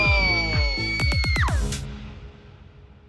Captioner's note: shrieks